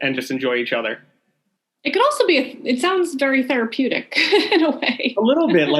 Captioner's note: laughing